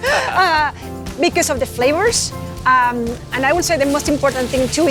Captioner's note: laughs